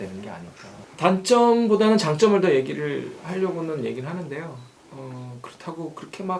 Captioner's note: feedback